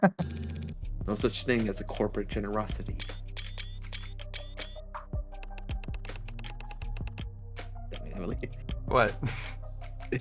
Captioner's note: screenshot sound effect repeats six times